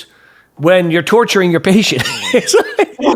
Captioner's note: laughs